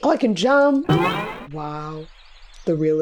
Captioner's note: boing